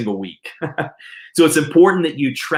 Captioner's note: chuckles